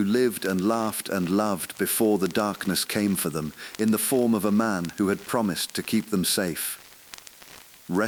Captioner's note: sighing; exhale